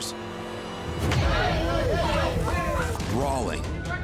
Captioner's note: customers fighting